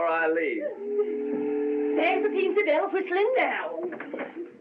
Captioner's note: ship Whistle Blows